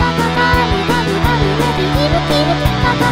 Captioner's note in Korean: 끼룩끼룩